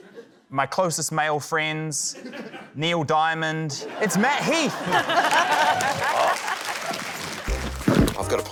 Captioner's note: laughter, applause